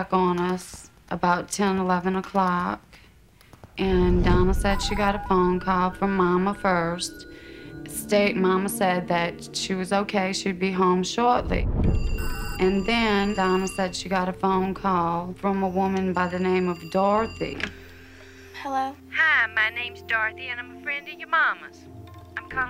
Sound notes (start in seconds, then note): 11.9 phone ringing; 19.2 on phone